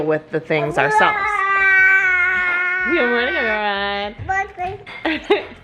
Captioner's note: babbling; laughs